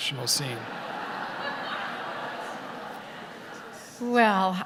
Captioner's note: audience laughter